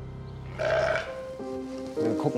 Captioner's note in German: Das Schaf blöckt